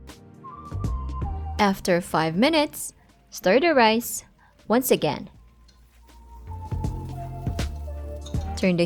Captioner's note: chopsticks thudding